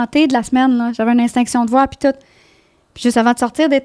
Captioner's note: in french